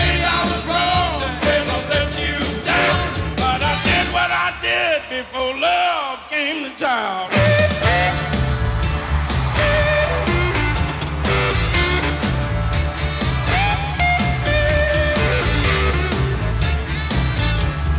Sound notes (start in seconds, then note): 7.3 groovy blues-rock music; 7.4 crowd cheering